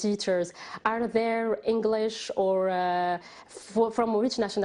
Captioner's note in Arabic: تتحدث الإنجليزية